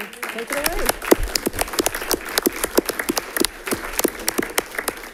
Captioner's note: audience clapping